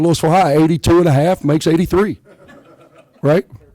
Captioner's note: laughter